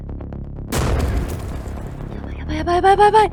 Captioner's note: sound of banging on door